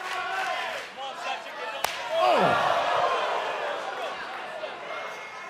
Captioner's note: fans chanting